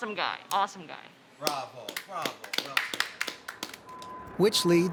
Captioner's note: applauds